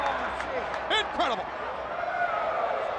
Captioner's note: crowd chatter